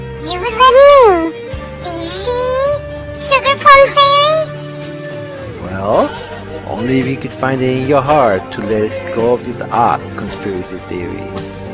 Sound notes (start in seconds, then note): none